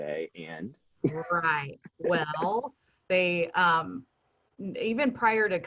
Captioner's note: chuckles